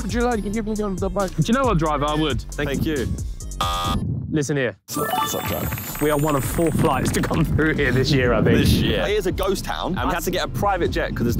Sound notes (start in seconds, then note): 3.5 buzzing sound effect plays; 5.2 hands ringing